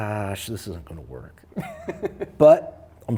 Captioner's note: laughs